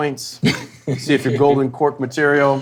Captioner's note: Dwyane laughing